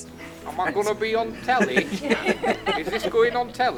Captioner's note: group chuckle